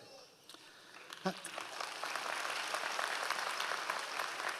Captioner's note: audience applause